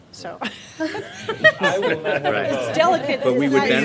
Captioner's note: laughter